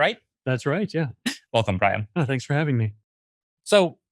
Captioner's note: laughs